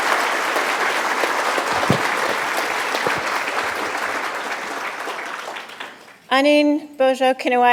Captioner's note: applause; foreign language